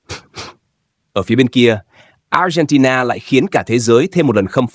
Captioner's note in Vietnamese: khịt mũi